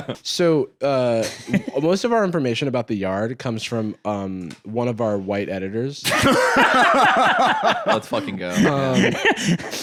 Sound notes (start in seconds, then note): 6.0 laugh